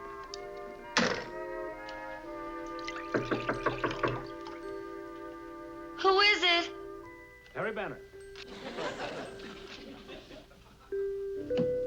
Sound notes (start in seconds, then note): 3.1 knocking on door